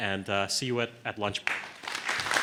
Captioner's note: applause